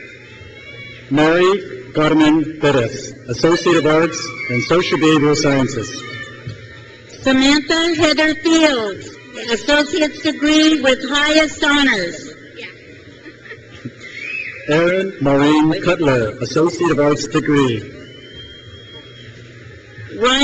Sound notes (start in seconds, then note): 0.0 crowd cheers; 6.5 crowd cheers; 13.2 graduate laughs; 13.8 crowd cheers; 18.2 crowd cheers